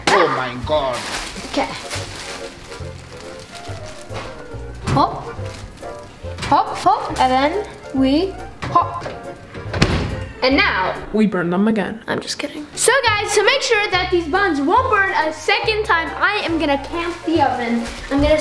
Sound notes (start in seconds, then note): 2.4 quirky music; 9.4 oven door slams